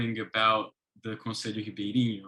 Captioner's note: speaks in foreign language